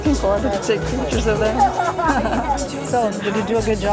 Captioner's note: chuckles